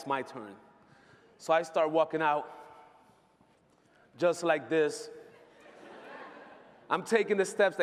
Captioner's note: laughter